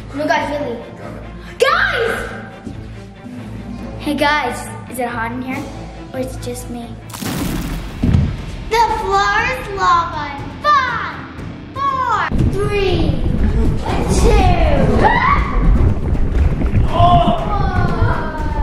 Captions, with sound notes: No guys, really. Guys! - Hey guys, is it hot in here, or is it just me? (crackling) (thud) The floor's lava in five, four, three, (bubbling) two, - Ah! One. - Oh!